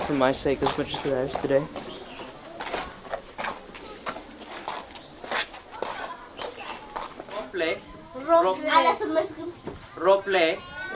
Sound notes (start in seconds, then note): 2.2 birds chirping; 2.2 footsteps thumping; 7.8 foreign language